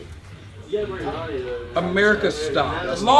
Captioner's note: indistinct chatter